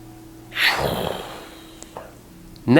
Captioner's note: flying noise